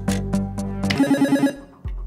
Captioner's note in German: Buzzer